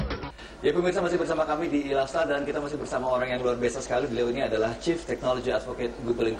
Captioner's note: speaking indonesian